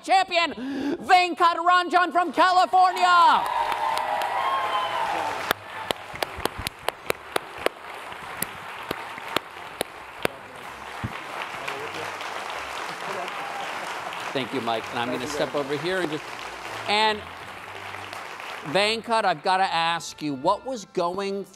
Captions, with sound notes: Venkat Ranjan from California. (applause) (intense music) Thank you Mike and I'm gonna step over here. And Venkat, I've gotta ask you what was going through